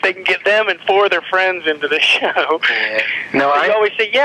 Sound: laughs

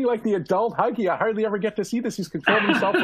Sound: laughter

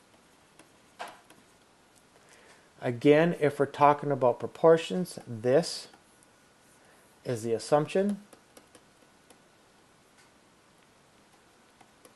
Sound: clicking

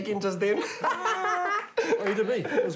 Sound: laughing

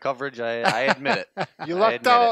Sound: chuckles

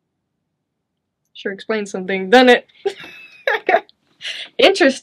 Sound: chuckles

